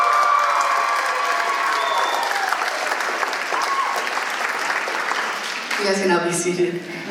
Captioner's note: applause